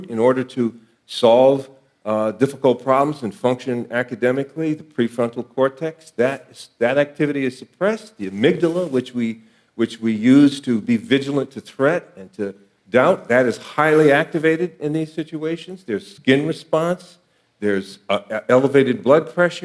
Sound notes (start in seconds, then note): none